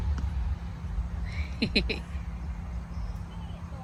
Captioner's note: giggles at adorable